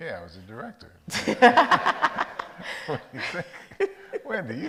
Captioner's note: all laugh